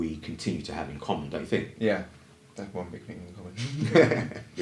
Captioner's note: laughter